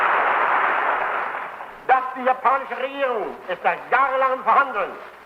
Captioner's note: applause